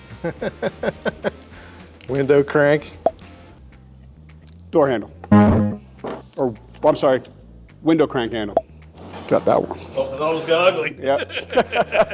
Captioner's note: laughter